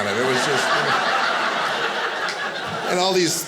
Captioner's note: audience laughing